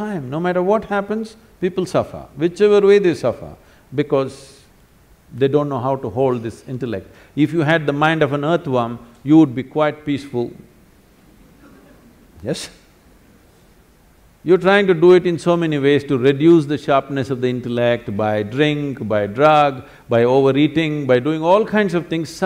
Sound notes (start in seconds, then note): 11.5 laughs